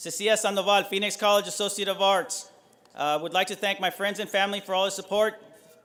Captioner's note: none